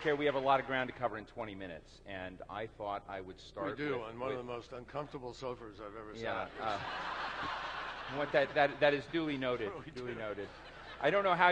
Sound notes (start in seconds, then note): 8.4 laughter